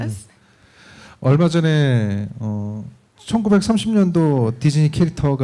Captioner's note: speaking korean